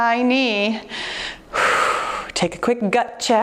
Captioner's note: exhales deeply